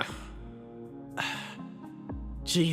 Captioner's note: sigh